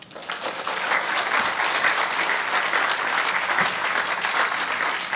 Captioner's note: audience clapping